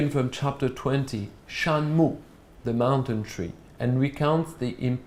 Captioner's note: non-english speech